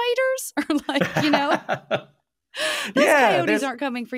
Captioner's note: laughing